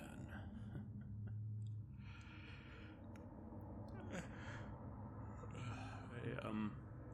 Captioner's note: tired laugh and yawn